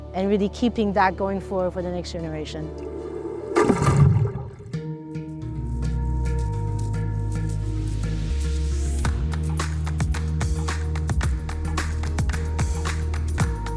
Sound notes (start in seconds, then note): 2.6 water splashing; 4.8 upbeat music